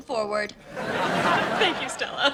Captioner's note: audience laughs